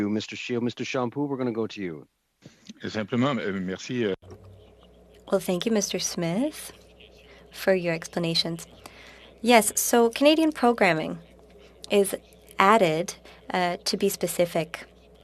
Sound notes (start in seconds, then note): 8.9 speaking French